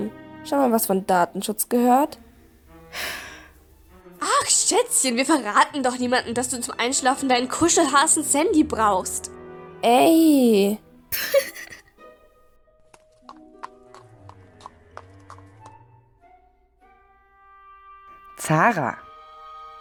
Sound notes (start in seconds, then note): 2.9 annoyed sigh; 11.1 laugh